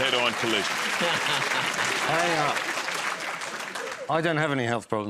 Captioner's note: laughs; applause